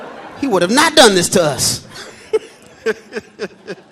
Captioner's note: laughs